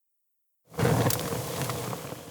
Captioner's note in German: Knisternde Flammen